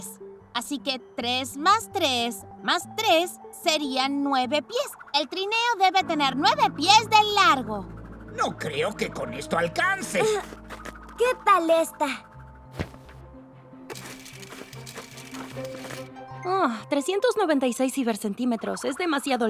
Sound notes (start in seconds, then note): 14.1 measuring tape clicks